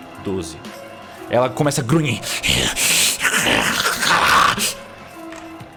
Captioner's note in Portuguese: irrh arrgh